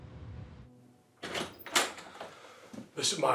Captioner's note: door opens